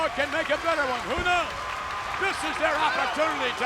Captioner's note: audience cheers